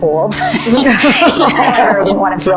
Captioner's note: both laughing